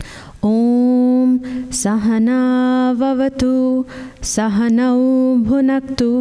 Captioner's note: chanting in foreign language